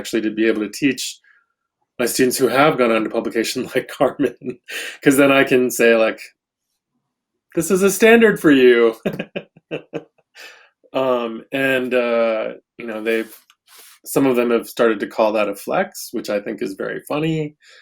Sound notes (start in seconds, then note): 8.7 laughs